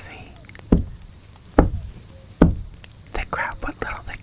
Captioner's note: three knocks